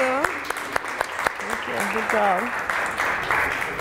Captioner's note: applause